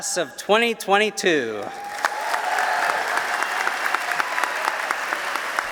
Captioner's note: applause